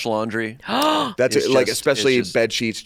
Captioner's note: gasps